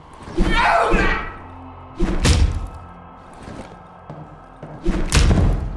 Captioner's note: punches thudding; villager exclaiming